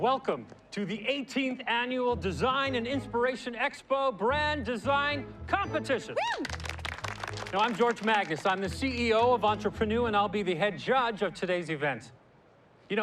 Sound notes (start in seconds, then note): 6.2 cheering, applause